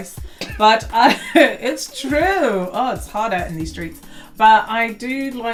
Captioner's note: laugh